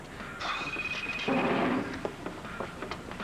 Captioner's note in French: Le téléphone sonne